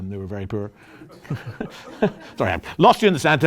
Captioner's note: laughter